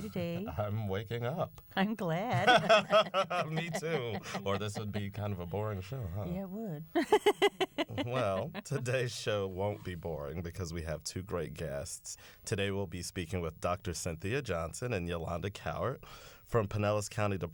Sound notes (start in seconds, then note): 2.3 laughter; 6.9 laughter